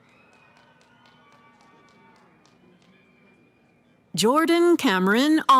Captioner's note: cheering